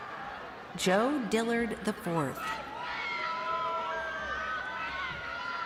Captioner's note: crowd cheering